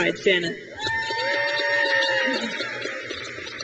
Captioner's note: crowd cheers